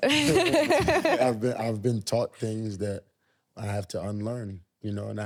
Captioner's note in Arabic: يضحك